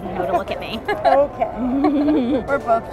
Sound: laughs

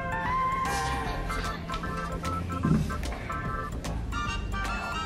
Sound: whispers

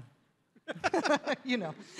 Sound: David and Rachel chuckling

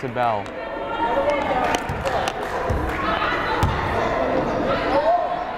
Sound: crowd chattering

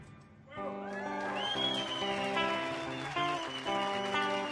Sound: audience cheers

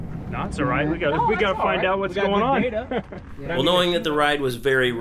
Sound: crew chatting

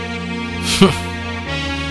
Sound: chuckles

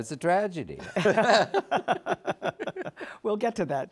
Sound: laughter

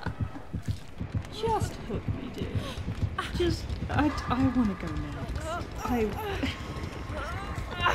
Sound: laughs

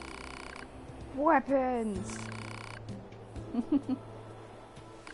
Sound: laughs

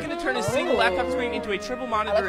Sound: crowd oohs

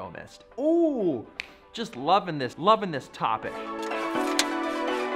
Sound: snaps fingers

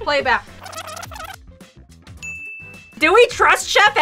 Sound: audio in reverse

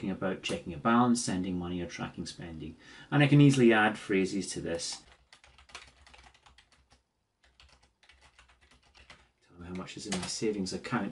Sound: typing sounds

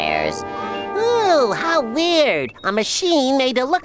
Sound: none

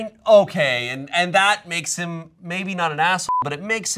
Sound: beep

